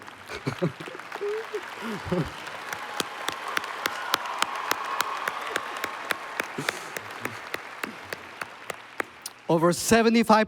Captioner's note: applause